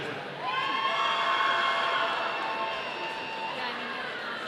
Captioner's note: audience cheering